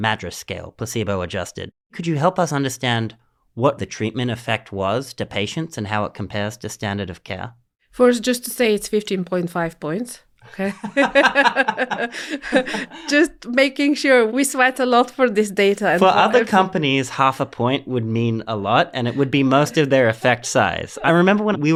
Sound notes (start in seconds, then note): 10.6 laugh